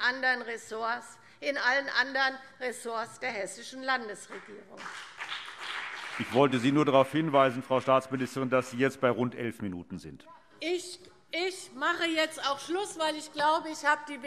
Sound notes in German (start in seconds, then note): 4.3 Beifall BÜNDNIS 90/DIE GRÜNEN und vereinzelt CDU